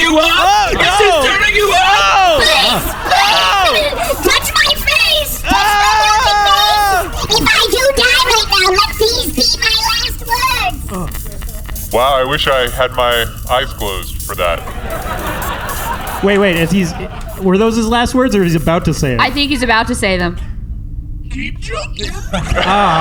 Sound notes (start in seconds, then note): 3.5 voice very high; 6.7 at a chipmunk pitch; 22.1 lower than normal